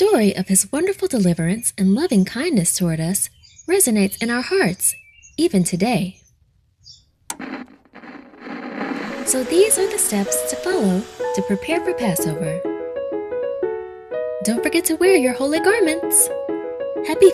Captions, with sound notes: the story of His wonderful deliverance, and lovingkindness toward us resonates in our hearts, even today. (TV clicking) (static buzzing) (bright piano music) So these are the steps to follow to prepare for Passover. Don't forget to wear your holy garments!